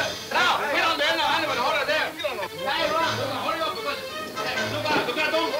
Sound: men yelling simultaneously

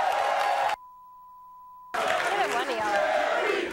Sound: audience cheering; beep

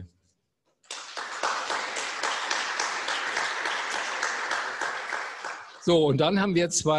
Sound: applause

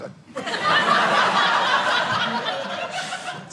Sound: audience laughing

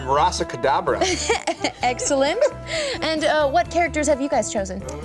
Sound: laughs

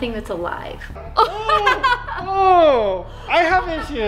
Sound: laughing

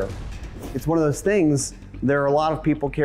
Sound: whooshing

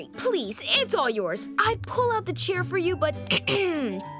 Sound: clearing throat

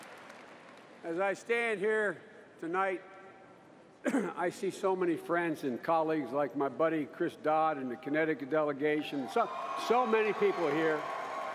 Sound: cheering

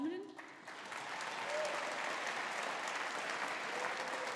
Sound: audience applauding

